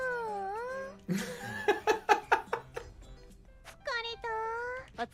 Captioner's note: laughing